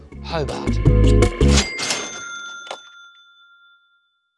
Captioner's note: register ringing